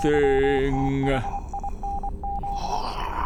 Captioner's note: dot dash dot